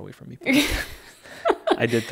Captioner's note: laughing